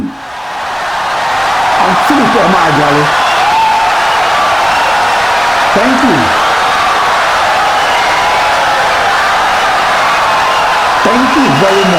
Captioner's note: wild applause and cheering for 17 seconds